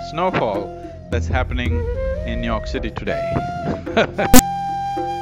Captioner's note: laughs